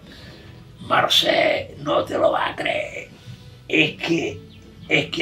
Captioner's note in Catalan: Amb accent murcià, imitant al senyor Juan